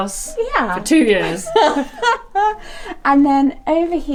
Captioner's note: laughs